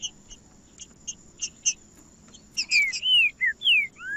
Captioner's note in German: trinca ferro cantando